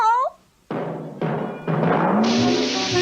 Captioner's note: bouncing